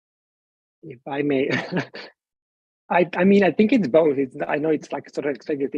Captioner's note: chuckles